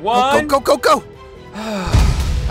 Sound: sighs

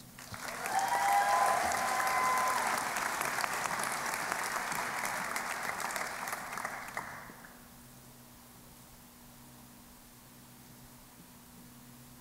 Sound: applause and Cheering

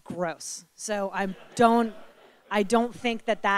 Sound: audience laughing

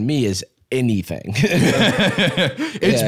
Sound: both laugh

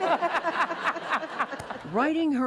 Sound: laughter

